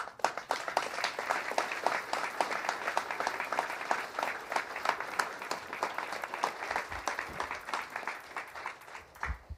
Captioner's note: applause